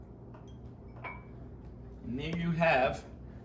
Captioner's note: glass clinks